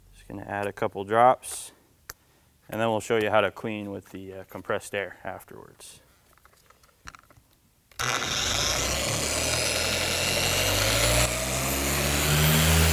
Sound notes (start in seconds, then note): 7.9 pad whining